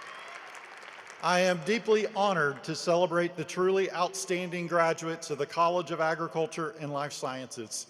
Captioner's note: applause